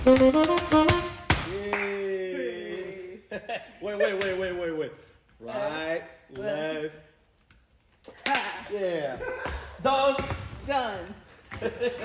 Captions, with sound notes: - Yay! (laughter) Wait, wait, wait, wait, wait. Right, left, (claps) Yeah! Done! Done!